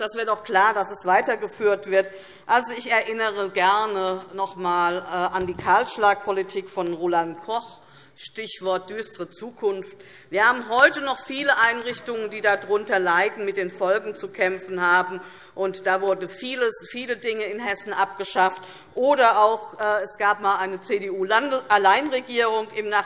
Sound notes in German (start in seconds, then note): none